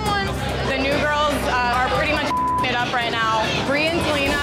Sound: beep

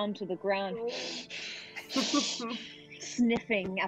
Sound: Talron sniffing

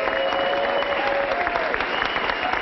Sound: applause

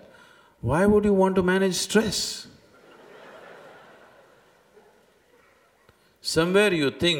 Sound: laughter

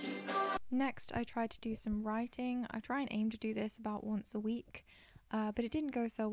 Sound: voiceover

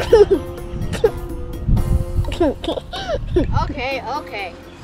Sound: chuckles

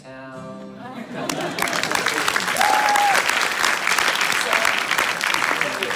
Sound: applause

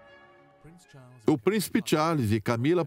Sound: voiceover

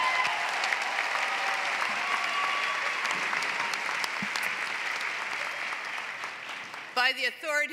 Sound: applause

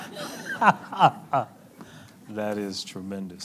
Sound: laughing

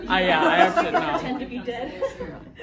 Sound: group laughing

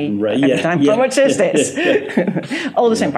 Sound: laughs

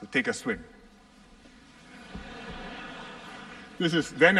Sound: laughter

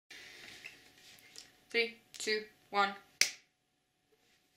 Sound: clap

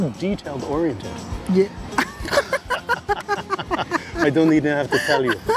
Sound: laughs

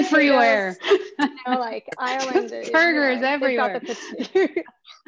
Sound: laughs

